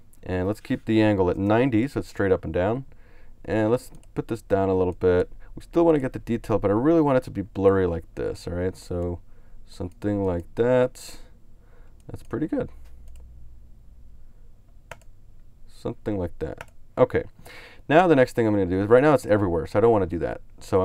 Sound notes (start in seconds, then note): 3.9 clicks on mouse; 13.1 clicks on mouse